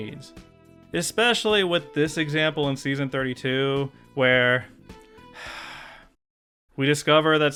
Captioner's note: sigh